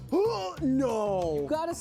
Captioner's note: gag